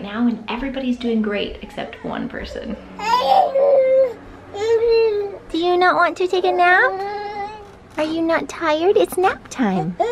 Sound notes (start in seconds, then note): 4.5 babbling